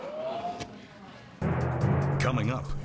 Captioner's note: audience exclaiming